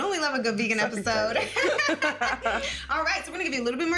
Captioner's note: both laughing